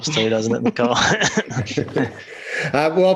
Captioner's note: laughing